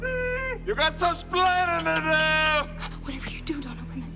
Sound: <i> hi-pitched voice</i>

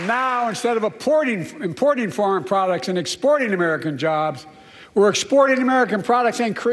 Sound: applause

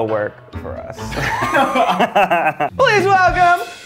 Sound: laughter

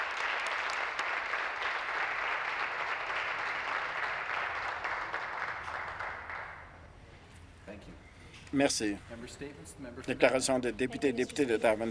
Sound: some Applause

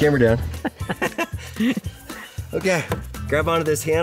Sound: they laugh

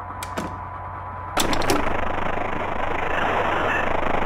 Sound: Static

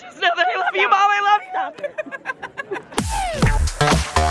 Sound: giggling

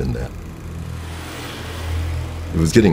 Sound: car whooshes past

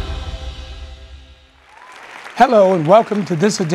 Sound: applause

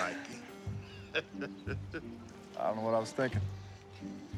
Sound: laughing

